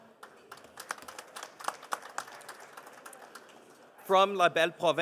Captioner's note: participants applauding